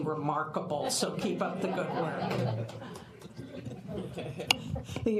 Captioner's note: laughter